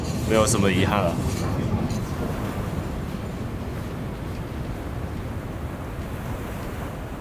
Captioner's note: sound of distant waves